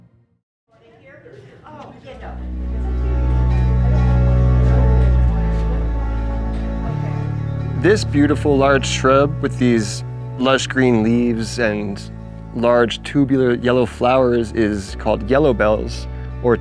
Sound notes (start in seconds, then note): 1.3 people chattering